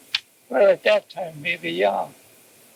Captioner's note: cassette audio